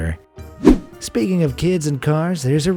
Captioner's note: air whooshing